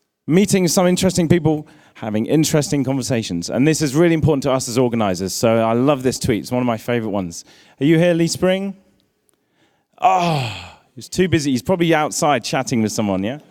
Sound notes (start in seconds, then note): 10.0 groans